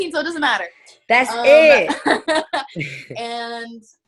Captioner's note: laughing